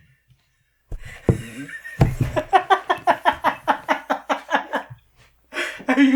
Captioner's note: more laughing